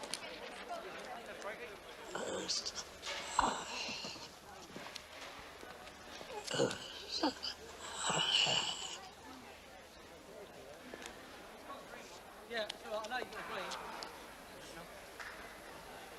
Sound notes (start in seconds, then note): 2.2 struggles to speak